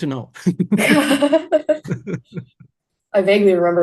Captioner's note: both laugh